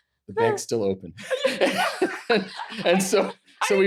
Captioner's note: both laughing